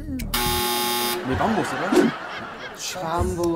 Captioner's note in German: Lachen